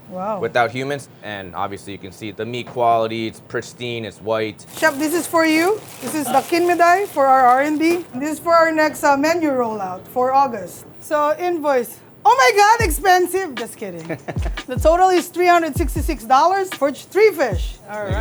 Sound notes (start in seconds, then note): 14.0 laughs